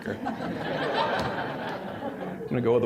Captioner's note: audience laughing